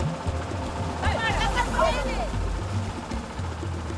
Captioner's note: speaking Indonesian